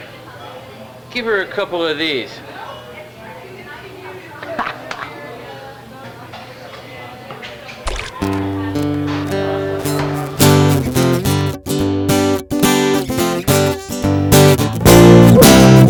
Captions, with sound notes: - Here, give her a couple of these. (laughs) (coffee splashes) (stressful guitar music)